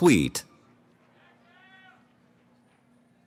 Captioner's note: cheering